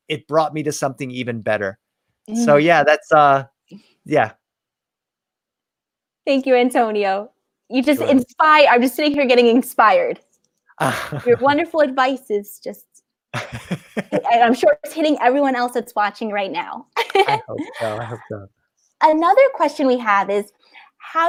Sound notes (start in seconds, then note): 10.8 laughs; 17.0 laughs